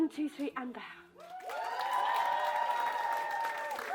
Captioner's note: cheering